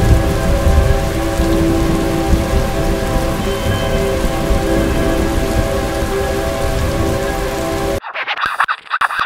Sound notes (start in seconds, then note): 8.0 record Scratch